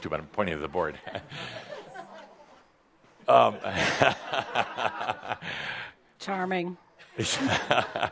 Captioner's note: chuckles